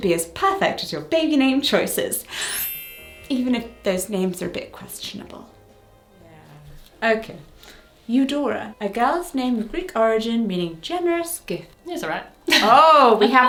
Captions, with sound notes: should be as perfect as your baby name choices. (twinkle sound effect) Even if those names are a bit questionable. Okay. Eudora. A girl's name of Greek origin meaning "generous gift." - It's all right.